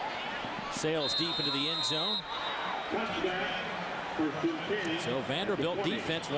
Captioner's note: crowd noise